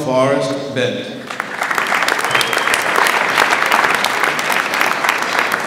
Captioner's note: audience applauds